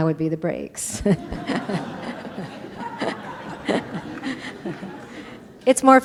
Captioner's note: laughter